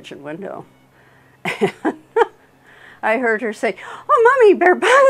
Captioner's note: laughs